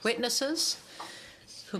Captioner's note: speaking French